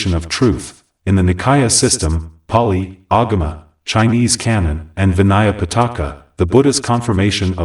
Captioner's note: Pāli